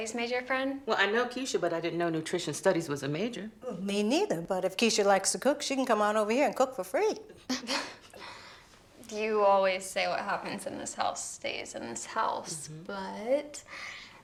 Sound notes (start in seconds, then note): 7.4 Tracy laughs